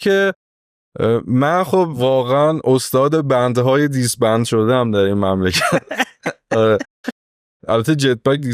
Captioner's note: laughs